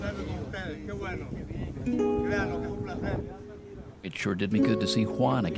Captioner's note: speaking Spanish